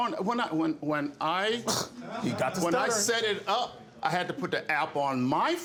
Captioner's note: stammers